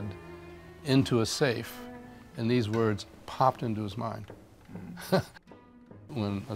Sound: chuckling

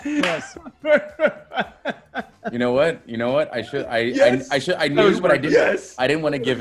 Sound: laugh

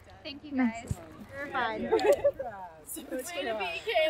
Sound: group laughter

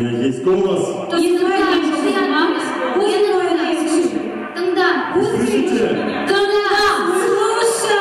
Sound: speaking Russian and Kazakh

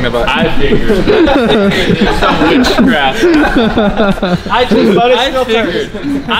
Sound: laughing

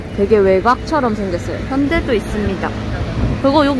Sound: car

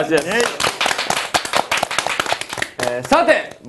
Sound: applause

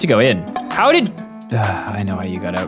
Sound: sigh

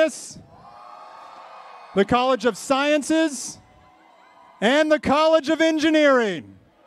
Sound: cheering

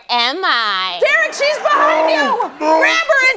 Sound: groaning

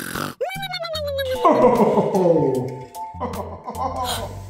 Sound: Santa Voiceover; gasps

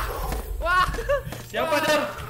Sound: laugh

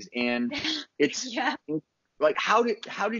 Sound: giggles

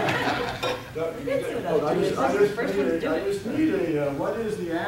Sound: audience giggling

